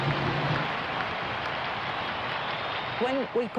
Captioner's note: applause